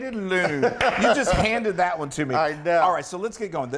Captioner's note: laugh